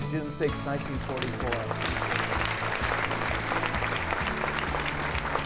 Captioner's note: audience applauding